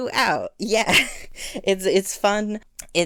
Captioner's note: laugh